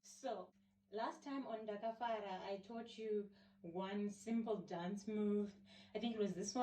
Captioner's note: in Shona